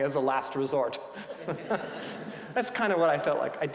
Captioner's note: audience laughing